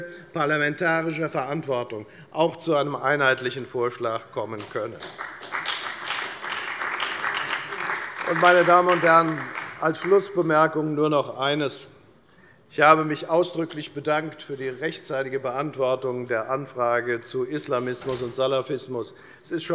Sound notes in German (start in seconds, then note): 4.5 Beifall bei der FDP und bei Abgeordneten der SPD